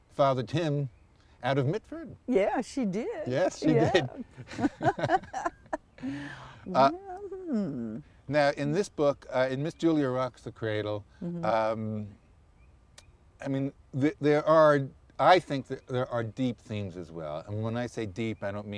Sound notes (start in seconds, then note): 3.6 laughter